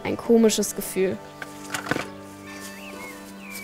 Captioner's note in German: Glockenläuten